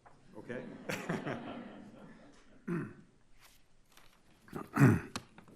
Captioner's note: audience laughing; laughs